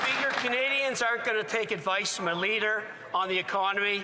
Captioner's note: some Applause